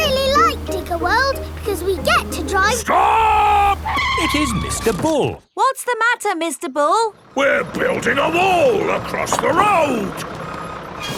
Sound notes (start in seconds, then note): 4.5 tires screeching